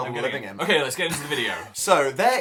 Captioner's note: laughs